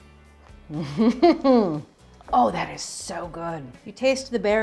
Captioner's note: laughs